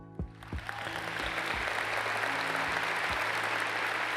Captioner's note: audience applauds